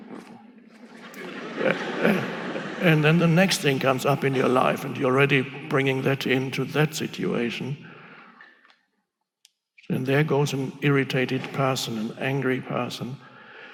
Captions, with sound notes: (audience laughing) And then the next thing comes up in your life and you're already bringing that into that situation. And there goes an irritated person, an angry person.